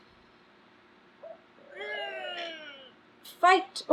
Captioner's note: groans